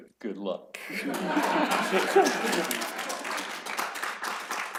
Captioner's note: laughter and applause